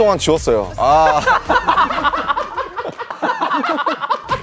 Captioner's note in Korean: 빵 터진 멤버들